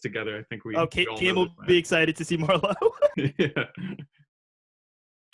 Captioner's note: laughs